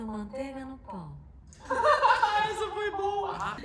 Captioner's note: laughing